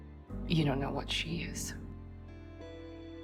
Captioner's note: voiceover